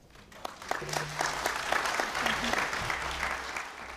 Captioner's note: applause